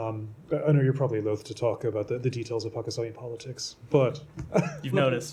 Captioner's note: laughter